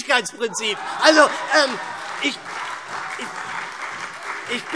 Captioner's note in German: Heiterkeit und Beifall SPD